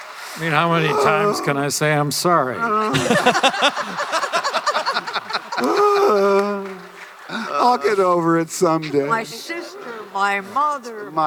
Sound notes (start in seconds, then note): 2.6 Hamill mock-groans; 2.8 laughter; 5.4 Hamill mock-groans again